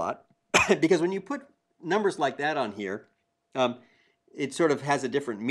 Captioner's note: cough